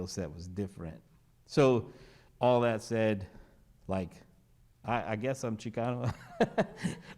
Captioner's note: laughs